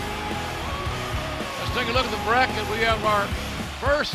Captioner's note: cheers and applause